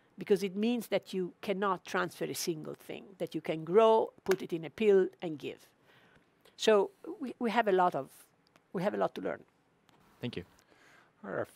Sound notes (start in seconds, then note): 4.2 claps hands